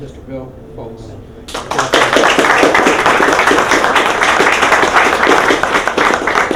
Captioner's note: applause